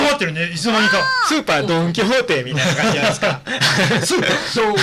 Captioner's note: laughs